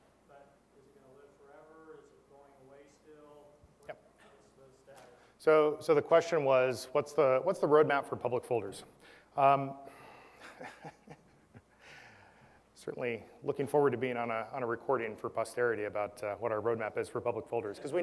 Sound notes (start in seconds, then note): 10.4 laugh